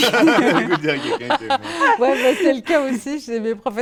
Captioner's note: laughter